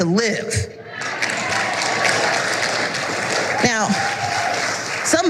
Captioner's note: applause